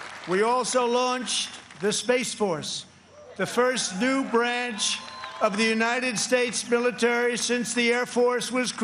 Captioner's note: applause